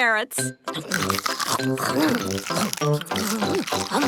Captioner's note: crunch